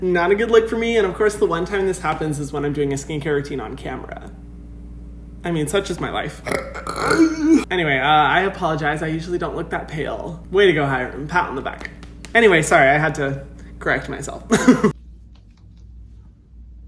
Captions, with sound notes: Not a good look for me, and of course the one time this happens is when I'm doing a skincare routine on camera. I mean, such is my life. (burping) Anyway, I apologize, I usually don't look that pale. Way to go, Hyram, pat on the back. Anyway, sorry, I had to correct myself. (laughing)